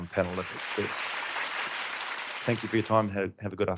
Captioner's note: crowd claps